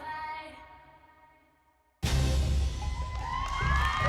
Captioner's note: crowd cheering